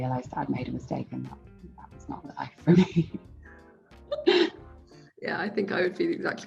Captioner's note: laughs